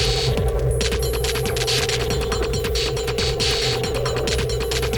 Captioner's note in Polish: Częste, nieregularne, metaliczne uderzenia